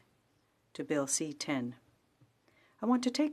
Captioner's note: speaking French